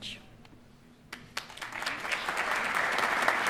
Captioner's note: applause